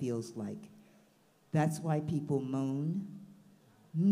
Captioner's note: melodic humming